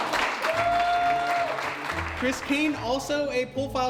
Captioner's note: attendees cheering and applauding